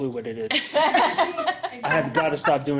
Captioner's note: laughing